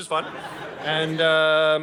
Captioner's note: audience laughing